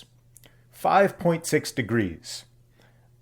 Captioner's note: none